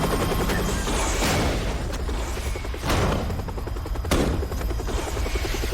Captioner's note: loud banging